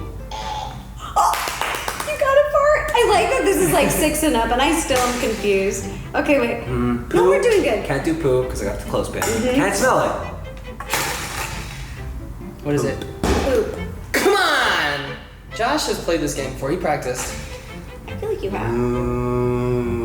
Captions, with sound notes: Franny - fartttttttt (clapping) you got a fartt!!!! I like that this is like 6 and up and I still am confused can't do poo cause I got a clothespin. what is it? poop. C'monnnnn Josh has played this game before. He practiced.